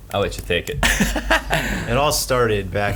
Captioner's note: laughing